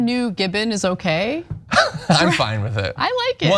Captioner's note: laugh